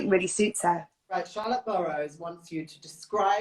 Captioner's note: none